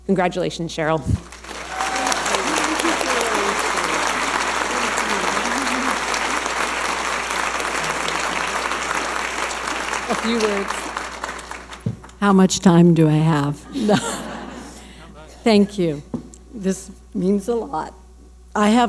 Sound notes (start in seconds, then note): 1.4 audience applauding; 13.6 laughing